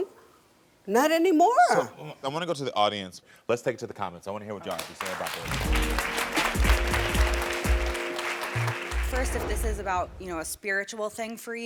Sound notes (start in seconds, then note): 4.6 audience clapping; 5.5 soft music